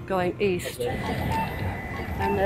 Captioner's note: beeping